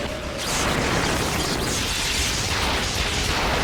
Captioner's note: electrical cracking